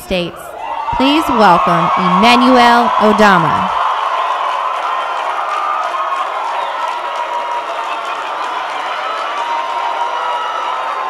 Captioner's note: cheers and Applause